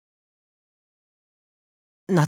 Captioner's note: silence